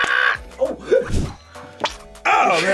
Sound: screams; laughs; toothpaste squelches

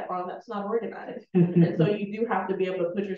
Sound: chuckling

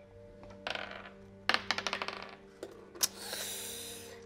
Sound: dice rolling

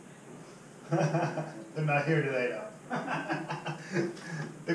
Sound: laughs

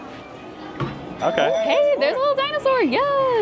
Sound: bell dinging

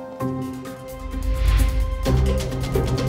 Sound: video whooshing; light playful music continues

